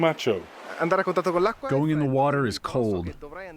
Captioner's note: through translator